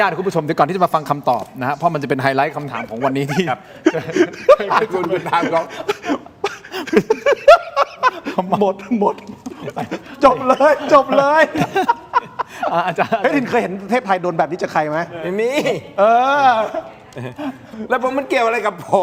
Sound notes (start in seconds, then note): 3.7 laughs; 10.2 laughs; 15.2 laughs